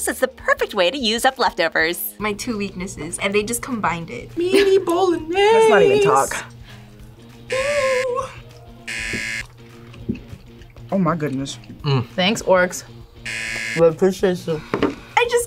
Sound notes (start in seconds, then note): 8.8 buzzer; 13.2 buzzer